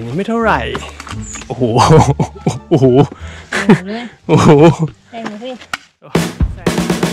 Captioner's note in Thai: ขำ